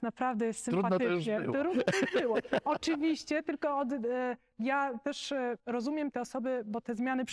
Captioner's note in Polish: śmiech